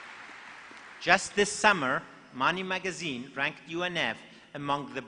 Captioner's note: applause